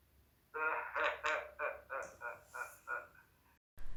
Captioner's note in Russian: смех